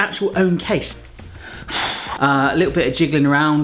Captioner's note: exhaling deeply